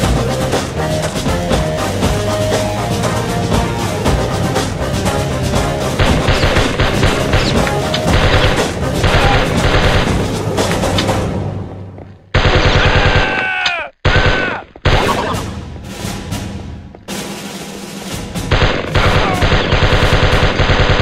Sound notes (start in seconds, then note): 6.0 M16 gun sync with music